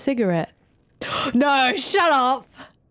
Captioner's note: gasp